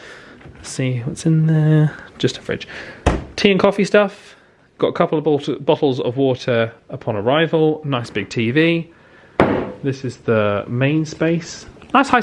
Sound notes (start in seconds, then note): none